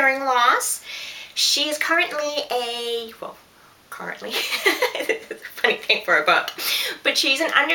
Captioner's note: laughter